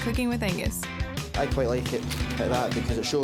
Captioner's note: with Scottish accent